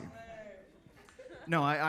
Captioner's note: attendees laughing